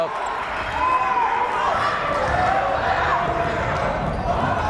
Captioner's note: yelling